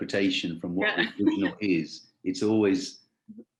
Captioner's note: voice muffling